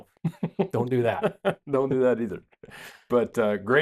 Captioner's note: laughs